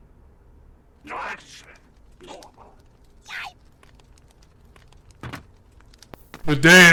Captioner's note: alien grumbles